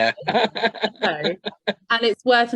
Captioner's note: laughs